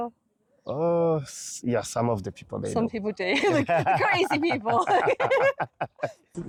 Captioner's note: laughing